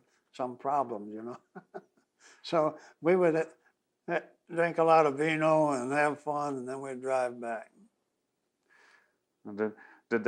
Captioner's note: laughs